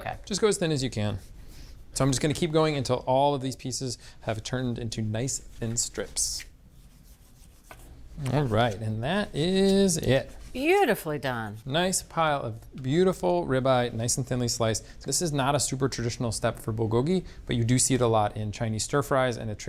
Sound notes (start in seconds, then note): 6.6 knife scraping